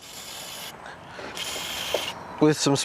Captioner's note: spraying